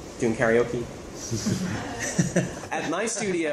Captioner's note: laughter